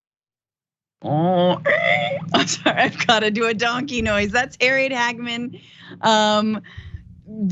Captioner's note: laugh